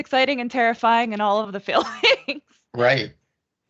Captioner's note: laughing